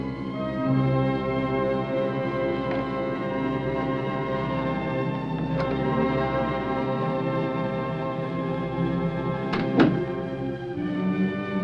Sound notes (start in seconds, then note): 2.7 doorknob Clicks; 9.5 door Closes